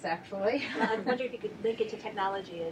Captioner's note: laughter